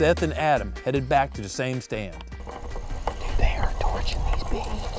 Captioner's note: whispering